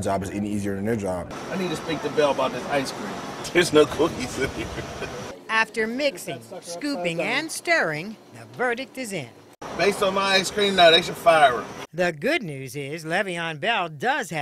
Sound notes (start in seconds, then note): 6.1 laughter